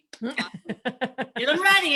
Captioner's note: laughs